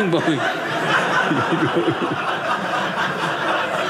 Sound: audience laughing

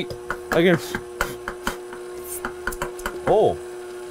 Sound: blowing air

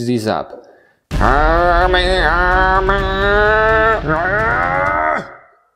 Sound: chanting and groaning

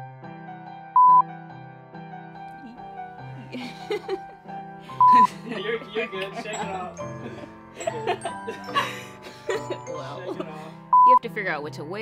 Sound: laughing

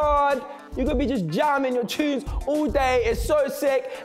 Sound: none

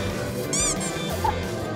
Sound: bump

